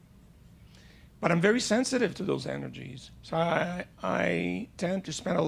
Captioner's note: none